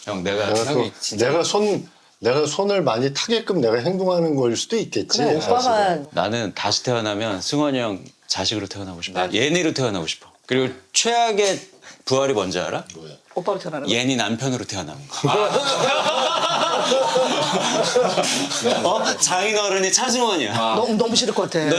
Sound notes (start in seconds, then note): 15.2 laughing